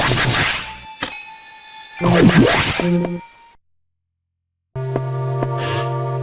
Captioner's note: sigh